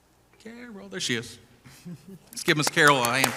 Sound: chuckling

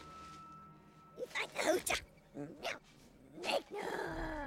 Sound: Speaking Ewokese

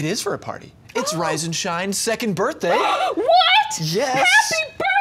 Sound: gasps

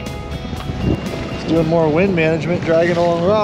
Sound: water lapping

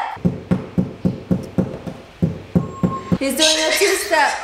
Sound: knocking

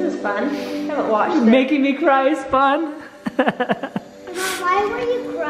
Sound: laughs

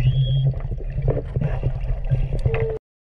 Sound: none

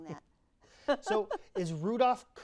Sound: laughing

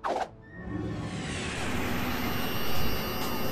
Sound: electric static

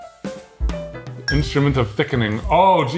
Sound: fork clinking

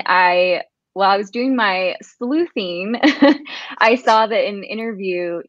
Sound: laughs

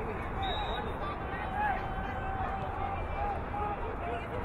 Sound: whistle blowing

